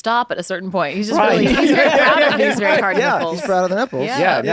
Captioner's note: all laugh